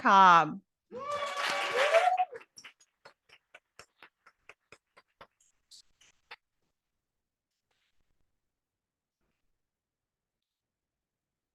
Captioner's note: audience applauding